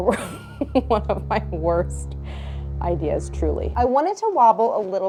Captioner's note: laughs; intense tune